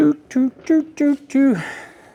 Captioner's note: humming